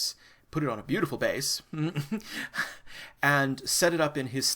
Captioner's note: chuckles